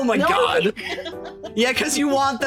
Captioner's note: laughing